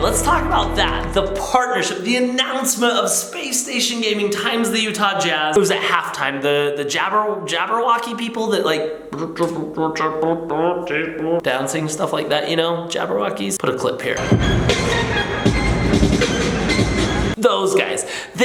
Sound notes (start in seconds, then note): 9.7 robotic sounds; 14.2 electronic music